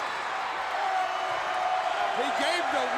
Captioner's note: crowd cheering